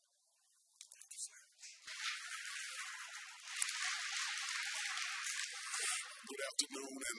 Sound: audience applauds

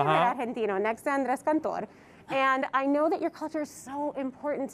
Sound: Spanish commentary

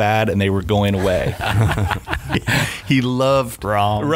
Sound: laughing

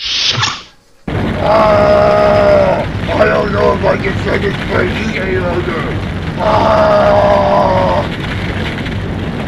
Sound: screaming in pain; screams again

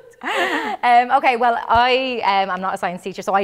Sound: laughter

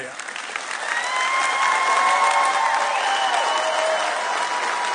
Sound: audience cheering

